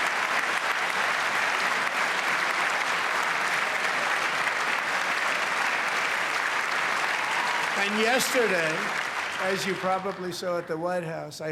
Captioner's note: cheers and applause